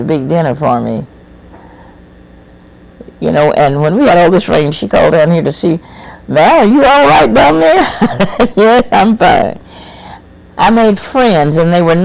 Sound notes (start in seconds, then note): 7.7 laughs